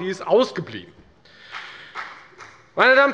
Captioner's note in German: Beifall bei der FDP